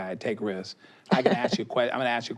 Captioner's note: she laughs